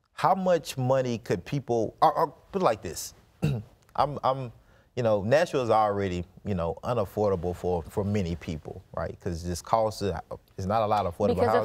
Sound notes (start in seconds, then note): 3.4 clears throat